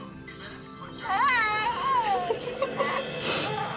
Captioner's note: baby cooing and crying